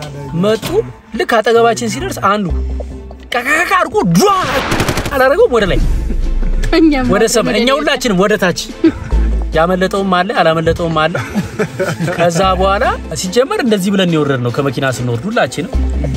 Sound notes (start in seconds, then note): 11.1 laughter